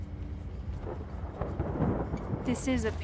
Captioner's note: thunder